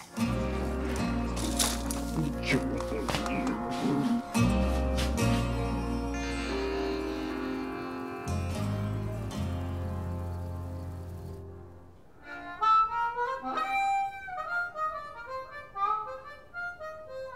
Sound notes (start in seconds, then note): 3.1 both grunting; 8.3 crickets chirping